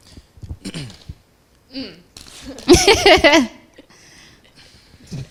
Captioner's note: laughter; clears throat